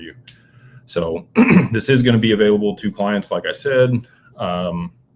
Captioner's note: clears throat